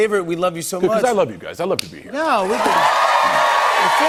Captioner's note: cheers and applause